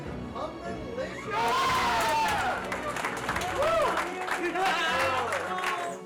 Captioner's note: cheering